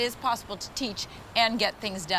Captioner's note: none